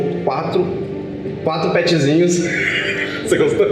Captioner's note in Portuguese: risos